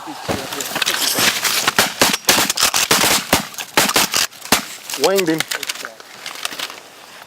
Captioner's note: gun shots